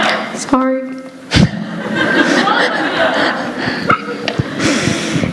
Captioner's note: laughter